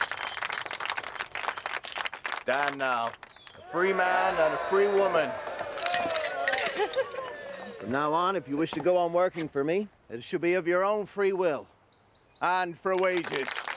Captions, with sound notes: Stand now a free man and a free woman. (audience cheering) From now on if you wish to go on working for me then it should be of your own free will and for wages.